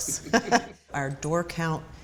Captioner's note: laughter